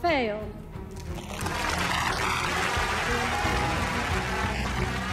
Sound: crowd clapping

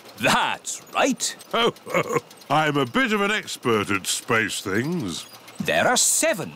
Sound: chuckles

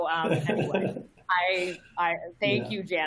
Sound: laughs

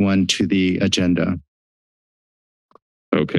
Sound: silence

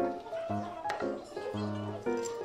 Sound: ohing

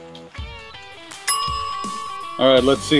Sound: alarm rings

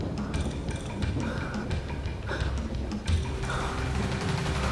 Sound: panting

